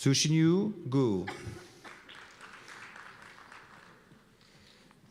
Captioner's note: applause